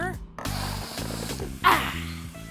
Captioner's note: sniiiiifff